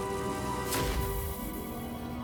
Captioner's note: explosion